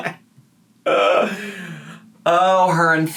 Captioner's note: laughing